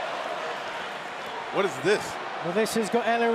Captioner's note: crowd cheering